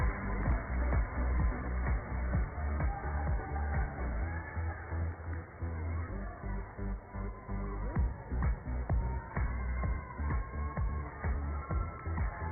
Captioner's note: cheers and applause